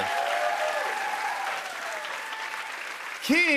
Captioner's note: cheers and applause